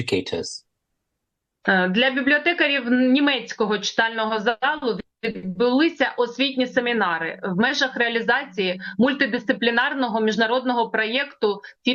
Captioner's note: foreign language